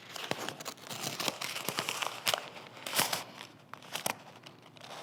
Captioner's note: page crinkling